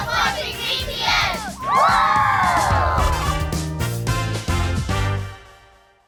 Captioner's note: cheering